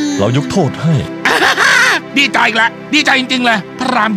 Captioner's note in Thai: หัวเราะ